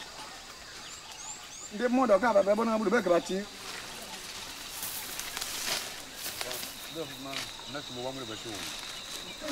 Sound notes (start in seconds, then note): 0.1 man speaking native language; 5.4 muffled chatter